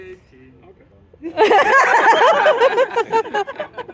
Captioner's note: laughter